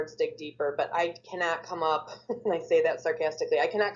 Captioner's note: laughs